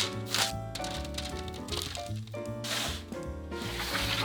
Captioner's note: tofu dropping